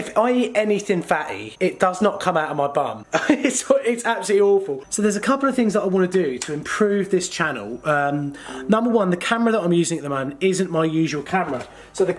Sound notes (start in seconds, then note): 3.3 laughs